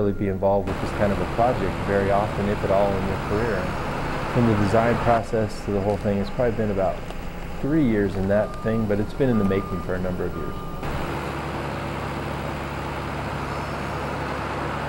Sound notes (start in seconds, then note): 10.7 static